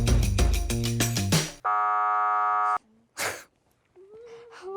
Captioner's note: buzzer resounds